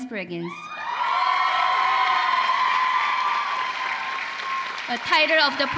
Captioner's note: applause